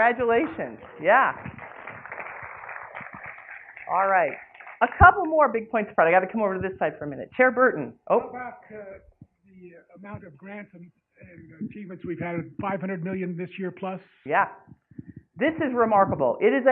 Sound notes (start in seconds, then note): 9.5 clapping